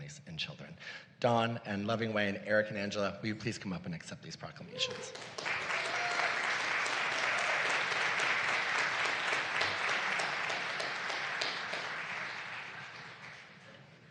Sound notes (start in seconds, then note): 6.8 applause